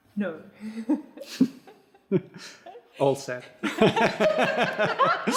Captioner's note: laughs